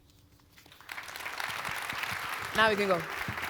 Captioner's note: audience applauds